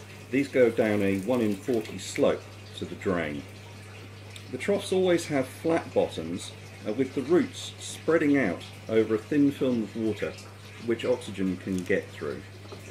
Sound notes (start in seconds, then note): 0.1 water trickling